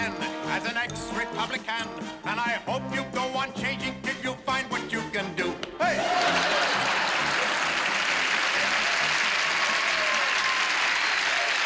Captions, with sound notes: as an ex-Republican and I hope you go on changing till you find what you can do. Hey! [ Laughter ]